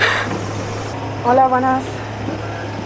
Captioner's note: in Spanish